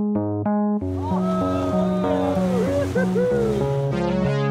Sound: uptempo synthesizer music; people cheering

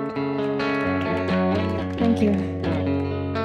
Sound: audience applauding and cheering

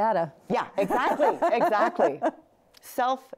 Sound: laughs

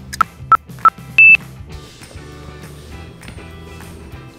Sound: timer beeps three times

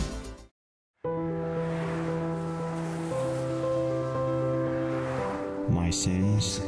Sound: traffic sounds

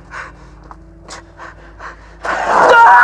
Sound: screams

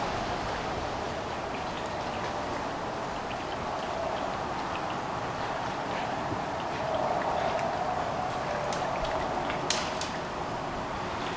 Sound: road noise

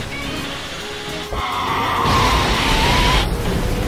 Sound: roars

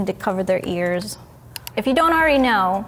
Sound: mouse clicking

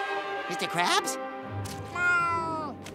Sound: meowing

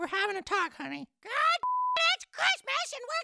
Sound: beep

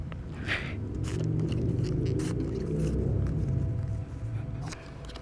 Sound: exhales deeply

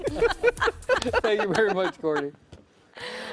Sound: laughter

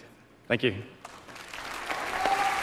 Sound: applause

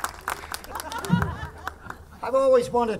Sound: audience laughing

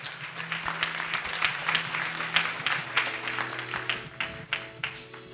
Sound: audience applauding

